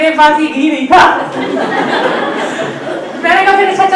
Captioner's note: everyone laughs